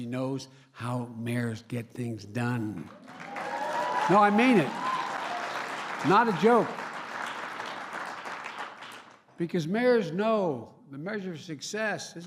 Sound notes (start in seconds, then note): 2.8 applause